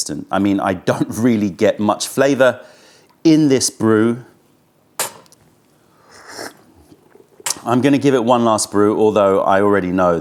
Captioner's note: sips tea